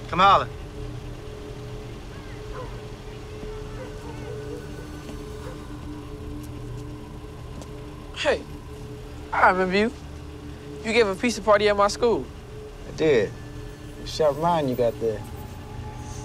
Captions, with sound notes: Come on. (ominous music) (dog barking) - Hey, I remember you. You gave a pizza party at my school. - I did. Sharp mind you got there.